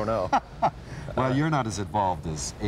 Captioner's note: laughs